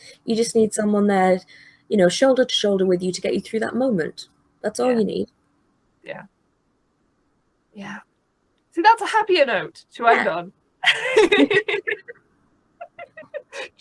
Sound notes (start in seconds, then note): 10.8 laughs